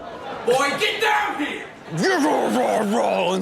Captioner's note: audience exclaiming; yelling; Rob growling